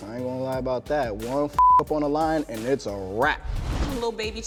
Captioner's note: beep